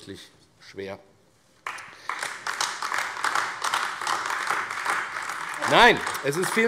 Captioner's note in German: Beifall AfD